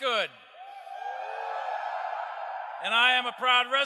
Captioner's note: crowd